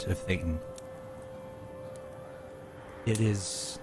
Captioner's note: campfire sounds